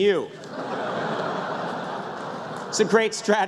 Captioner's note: laughter